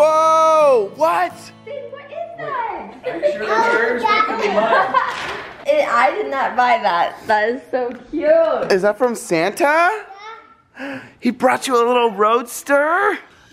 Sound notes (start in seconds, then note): 3.6 relatives talking